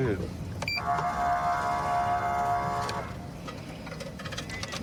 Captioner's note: horn blaring